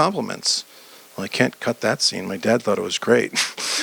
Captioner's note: audience laughter